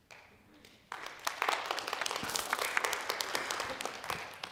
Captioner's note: audience claps